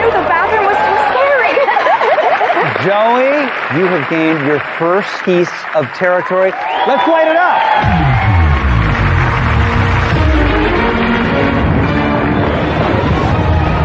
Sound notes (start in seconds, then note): 7.8 dramatic music; 7.9 cheering and applause